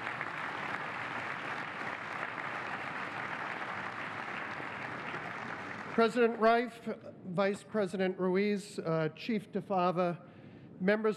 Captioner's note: applause